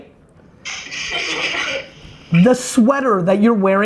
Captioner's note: class laughs